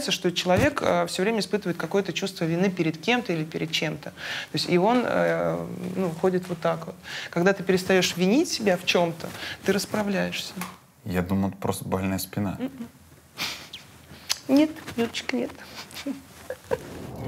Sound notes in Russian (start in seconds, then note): 12.6 Ира усмехается; 16.4 смеётся